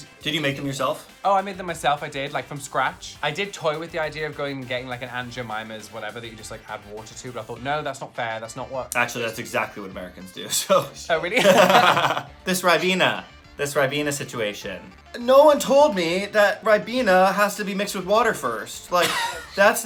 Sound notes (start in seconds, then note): 11.3 both laughing; 11.4 laughs